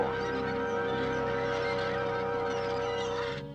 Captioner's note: birds chirping